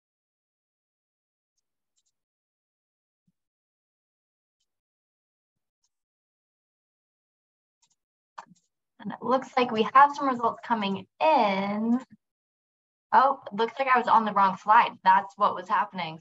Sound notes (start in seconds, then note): 5.6 silence; 7.8 mouse Clicking